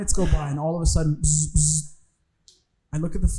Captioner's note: imitating phone buzzing